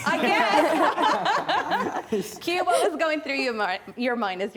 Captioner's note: laughter